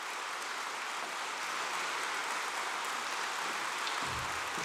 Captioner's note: applause